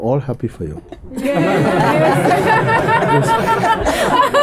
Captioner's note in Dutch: gelach